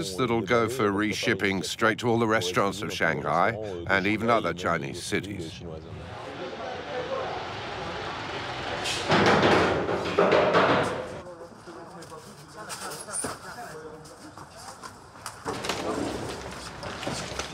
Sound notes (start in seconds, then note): 6.0 speaking in foreign language; 9.5 tailgate clattering; 11.9 speaking in foreign language; 13.6 packaging crinkling